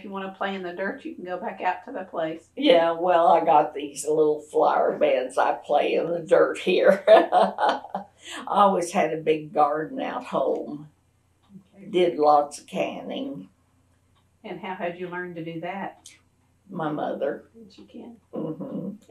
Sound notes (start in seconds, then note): 6.8 laughs